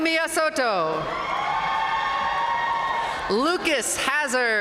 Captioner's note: audience cheering and applauding